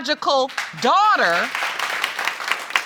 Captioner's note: applause